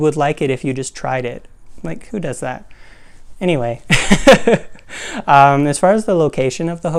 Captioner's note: laugh